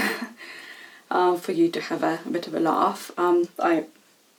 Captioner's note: laughs